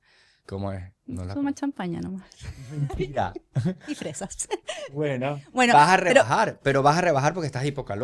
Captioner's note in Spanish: risas